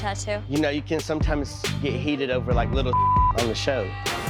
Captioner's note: beep